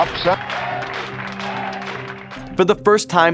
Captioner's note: crowd cheers and applauds